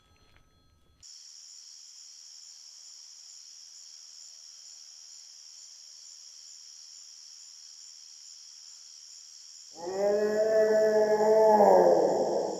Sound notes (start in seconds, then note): 2.6 crickets chirping; 9.8 A bigfoot howls in the distance